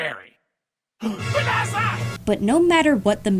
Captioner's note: gasps